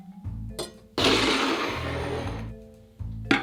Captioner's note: bowl sliding